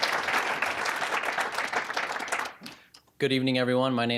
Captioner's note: applause